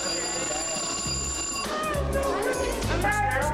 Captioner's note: classroom bell rings